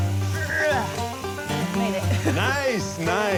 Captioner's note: grunts